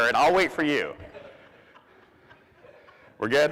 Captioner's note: audience laughs